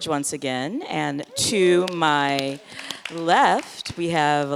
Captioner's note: audience clapping